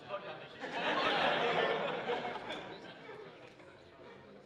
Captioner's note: laughter